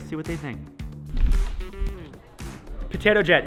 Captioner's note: air whooshing